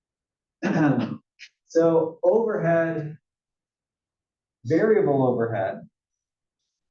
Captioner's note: cough